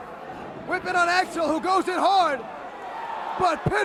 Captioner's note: crowd chatter